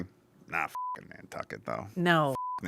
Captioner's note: beep